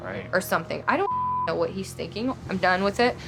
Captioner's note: beep